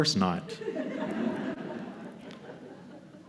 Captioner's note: laughter